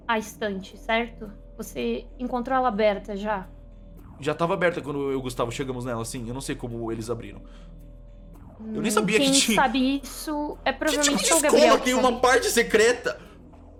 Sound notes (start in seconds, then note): 9.9 screaming